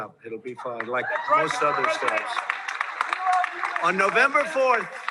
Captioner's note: audience cheering